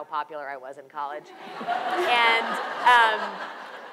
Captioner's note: audience laughs